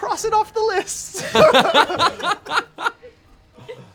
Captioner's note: laughter